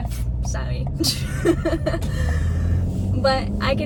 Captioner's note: laughs